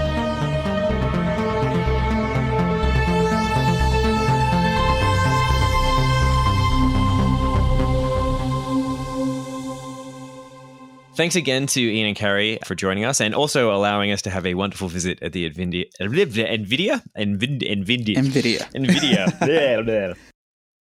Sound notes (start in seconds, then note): 16.1 stutters